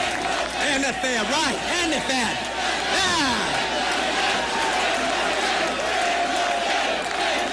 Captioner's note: applause